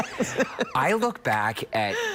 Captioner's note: laughter